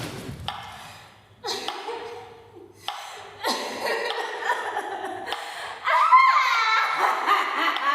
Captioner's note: strained laughter